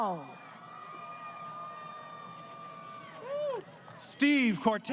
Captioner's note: crowd Cheering